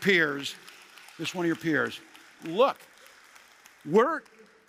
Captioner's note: applause